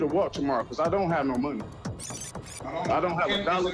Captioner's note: tape whirs